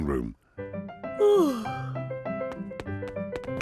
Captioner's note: yawns